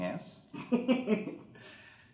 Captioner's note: laughs